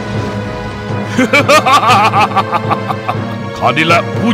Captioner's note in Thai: หัวเราะ